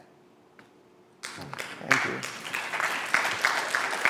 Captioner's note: applause